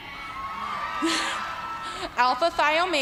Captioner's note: cheers and applause